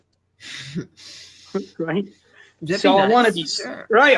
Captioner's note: chuckles